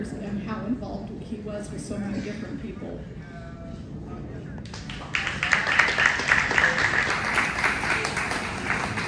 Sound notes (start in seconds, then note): 4.6 applause